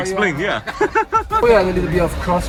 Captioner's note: laughs